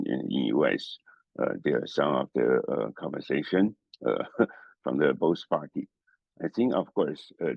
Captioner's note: laugh